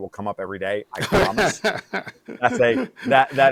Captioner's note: laughing